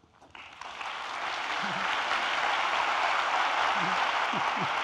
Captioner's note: audience applauding